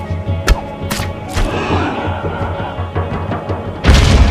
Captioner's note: arrow whistles; growling; explosion